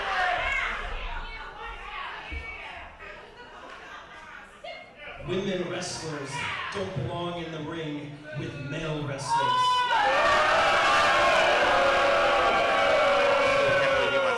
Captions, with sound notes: - Women wrestlers don't belong in the ring with male wrestlers. (crowd booing)